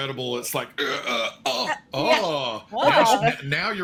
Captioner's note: grunts